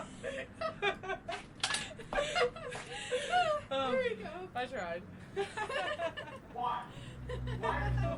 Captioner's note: laughing and chattering